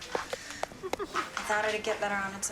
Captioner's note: Jimmy laughing